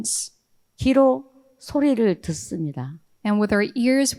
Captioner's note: speaking in foreign language